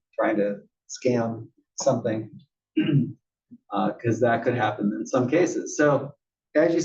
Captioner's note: cough